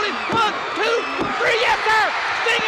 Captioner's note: countdown thudding